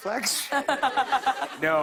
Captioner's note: laughter